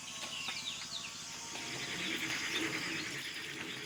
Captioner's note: sound of birds singing